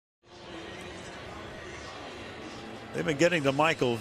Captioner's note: pa announcement